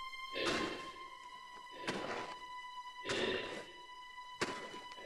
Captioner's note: Chemock breathes heavily